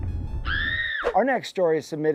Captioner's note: woman screaming